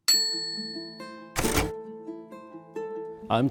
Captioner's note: bell dings; typewriter clacks; calm music